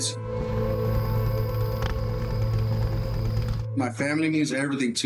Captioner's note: fire crackling